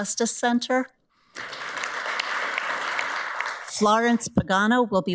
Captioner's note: audience applauds